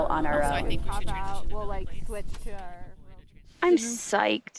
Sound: overlapping chatter

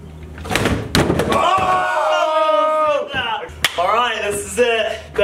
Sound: yelling

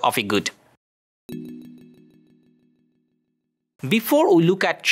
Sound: text chiming

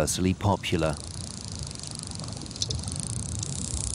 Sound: dolphin clicks

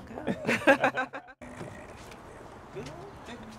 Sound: both chuckle

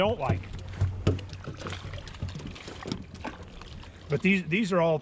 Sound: fish splashing

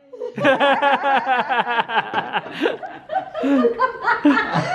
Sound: all laugh

